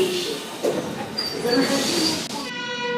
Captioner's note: opening doors